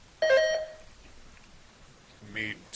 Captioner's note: buzzer chiming